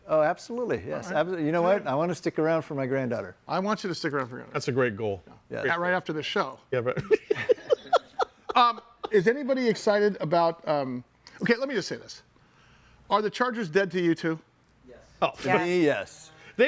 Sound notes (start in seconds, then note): 7.0 laughing